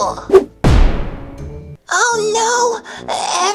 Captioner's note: whoosh